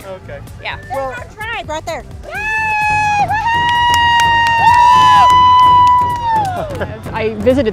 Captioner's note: "Woo-hoo!" by spectator